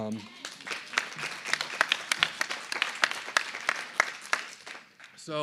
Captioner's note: applause